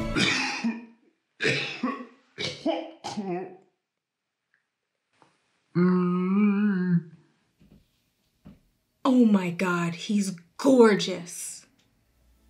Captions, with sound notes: [loud coughing] [groaning] -Oh my god, he's gorgeous.